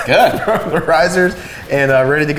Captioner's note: chuckling